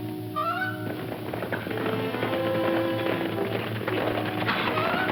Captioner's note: horse hooves clomping